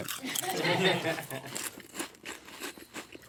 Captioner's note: crew laughs